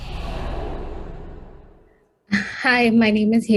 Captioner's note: air whooshing